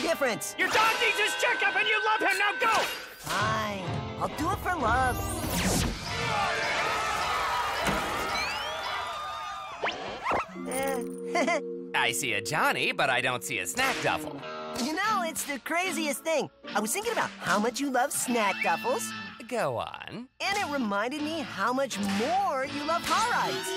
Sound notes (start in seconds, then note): 5.3 monstrous roar on tv, panicked screaming; 11.2 laughing nervously